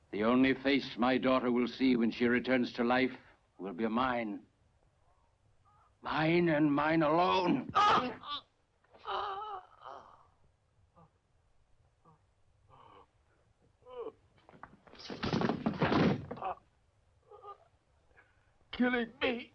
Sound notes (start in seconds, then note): 9.0 Bohlem groans